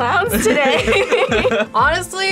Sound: both laugh

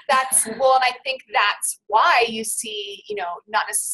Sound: voiceover

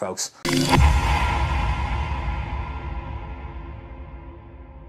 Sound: electromagnetic blast

